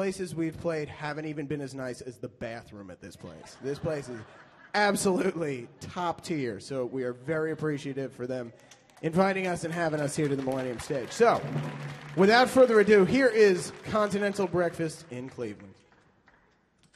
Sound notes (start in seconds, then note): 3.2 audience laughs; 11.3 audience applauding